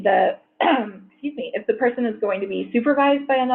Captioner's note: clears throat